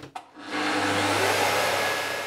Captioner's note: sound of sawing